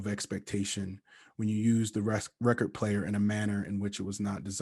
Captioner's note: stutters